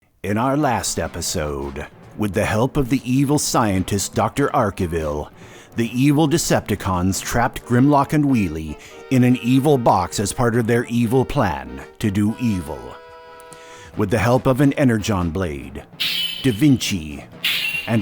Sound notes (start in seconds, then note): 16.0 shining blade sound; 17.0 shining cat sound